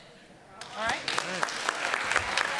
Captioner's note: applause